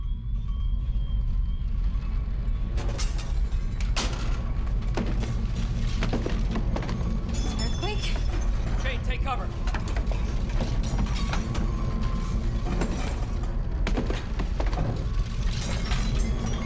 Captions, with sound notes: [loud thuds] An earthquake? Quick, take cover!